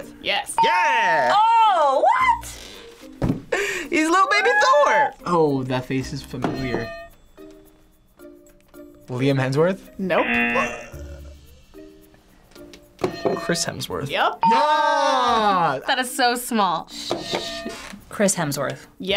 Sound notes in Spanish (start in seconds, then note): 6.2 suena la campana; 10.1 zumbador; 13.1 suena la campana